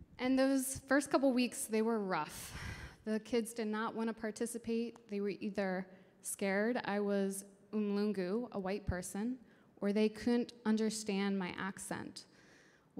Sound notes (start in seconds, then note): 7.2 speaking in foreign language